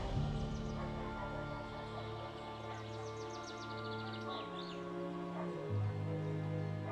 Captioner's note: birds chirp; deep haunting music